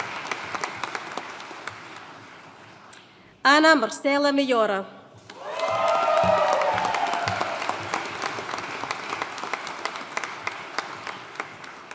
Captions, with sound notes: Ana Marcela Mayora. (AUDIENCE CHEERING AND APPLAUDING)